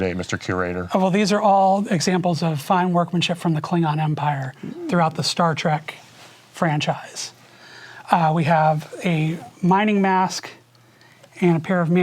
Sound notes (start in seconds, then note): none